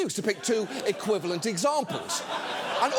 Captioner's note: audience laughing